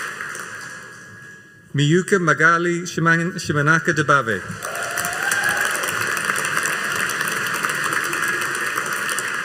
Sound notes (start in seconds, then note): 4.5 audience applauding